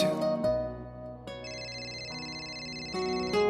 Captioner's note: cellphone ringing